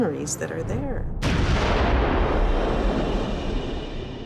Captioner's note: gunshot